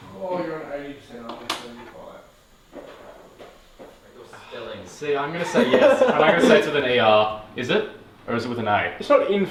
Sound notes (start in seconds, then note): 0.5 people chatter; 5.4 laughs